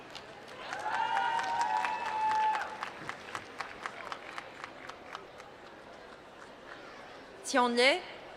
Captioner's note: applause